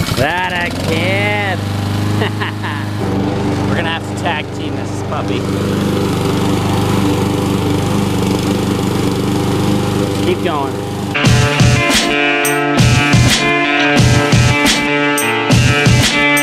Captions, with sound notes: - That a ... yes. Ha, ha, ha. We're going to have to tag team this, probably. (lawnmower running) Just keep going. (rock music playing)